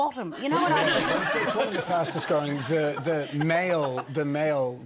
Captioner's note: audience laughs